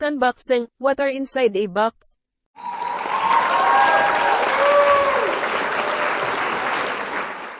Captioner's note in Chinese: 鼓掌